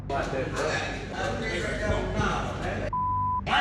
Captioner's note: inmates chattering indistinctly